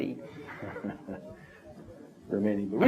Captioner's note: laughs